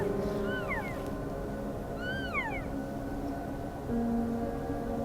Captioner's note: animal sounds